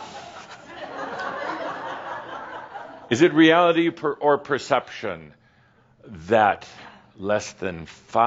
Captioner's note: some chuckles